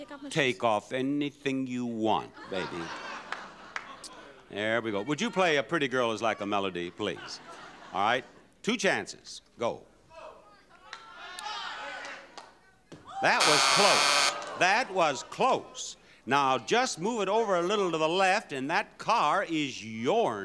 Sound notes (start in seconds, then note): 2.3 audience laughs